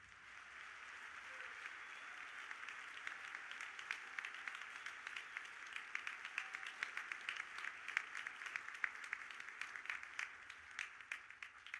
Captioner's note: audience applauding